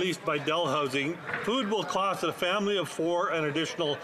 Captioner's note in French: voix de l'interprète